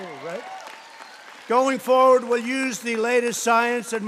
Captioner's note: applause